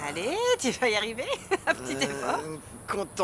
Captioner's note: laughing